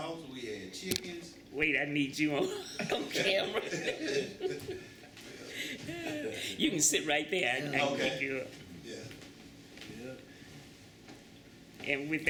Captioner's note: laughter